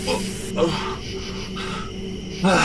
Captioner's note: moaning